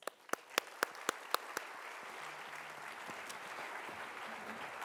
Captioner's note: audience applauding